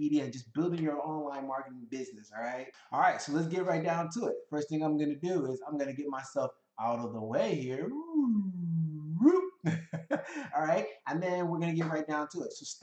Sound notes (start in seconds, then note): 9.0 laughs